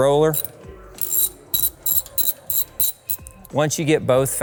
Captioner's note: ratchet clicking